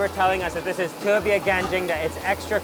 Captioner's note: speaks in a foreign language